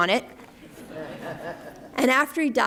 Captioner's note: laughter